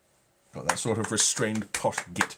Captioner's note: clapping